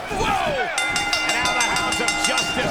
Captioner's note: bell rings